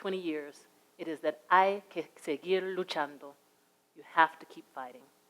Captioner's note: speaks in a foreign language